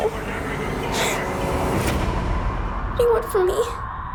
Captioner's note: gasping